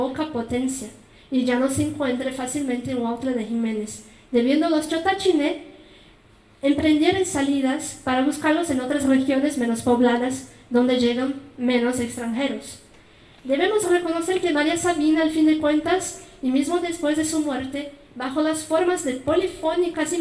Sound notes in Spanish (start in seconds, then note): 6.5 habla en mazateco